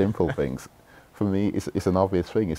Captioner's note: laughter